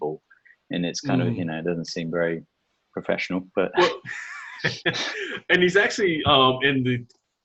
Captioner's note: chuckles